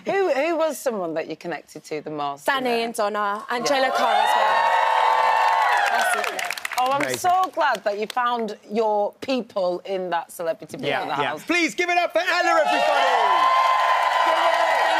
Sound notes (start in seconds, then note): 3.6 crowd cheering; 12.2 crowd cheering